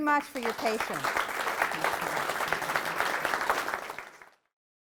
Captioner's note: applause